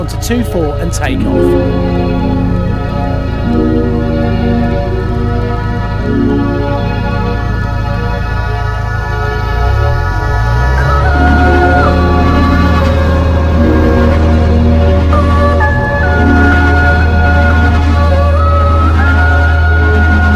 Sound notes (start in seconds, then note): 3.3 peaceful music; 9.7 engine revving